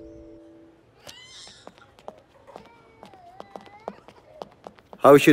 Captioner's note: Footsteps